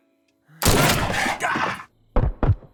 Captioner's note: pistol booming; Del grunting; pistols booming